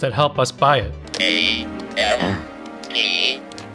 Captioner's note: Robotic voice